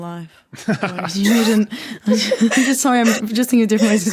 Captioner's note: laughs; crack up